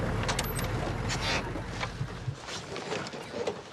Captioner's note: doors opening